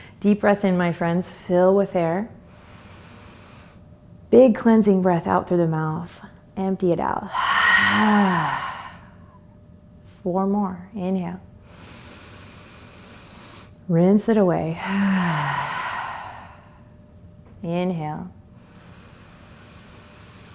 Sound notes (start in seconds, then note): 2.5 inhales; 7.3 exhales; 14.7 inhales; 14.8 exhales; 18.9 inhales